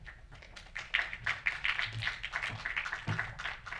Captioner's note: crowd applauds